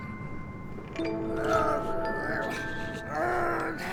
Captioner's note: constipated noises